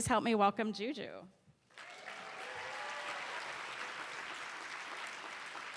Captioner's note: cheers and applause